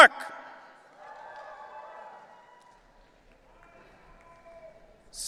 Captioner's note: audience cheering